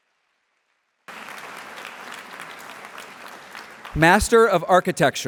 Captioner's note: applause